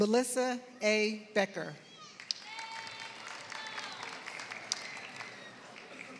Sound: applause

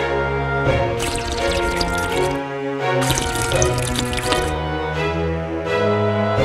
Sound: slurping

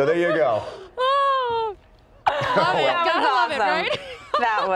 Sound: laughter

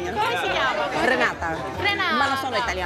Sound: in Italian

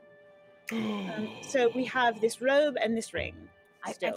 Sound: Briv inhales deeply

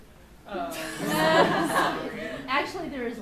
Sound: laughs

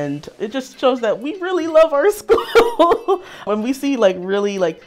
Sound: laughs

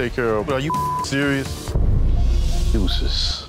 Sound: beep

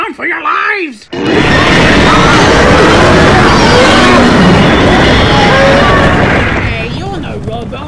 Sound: animals screaming

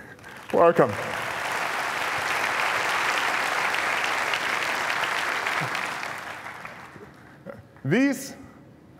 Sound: applause

